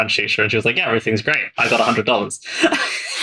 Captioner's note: laughs